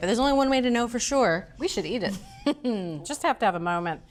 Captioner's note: chuckles